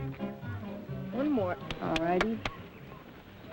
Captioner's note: pat; birds chirping